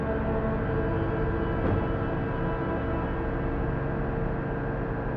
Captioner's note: thudding; tense dramatic music